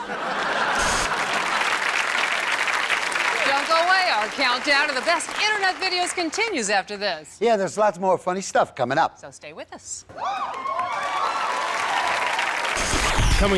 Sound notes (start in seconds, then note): 0.0 audience laughs; 1.5 audience applauds; 10.5 audience applauds